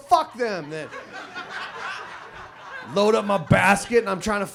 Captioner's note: audience laughs